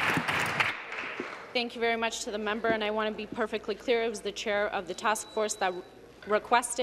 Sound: applause

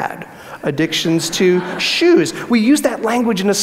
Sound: audience laughs

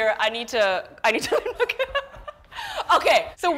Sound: both laugh

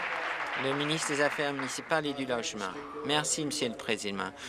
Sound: applause

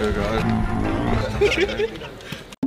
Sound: laughing

